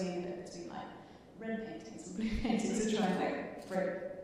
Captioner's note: chuckling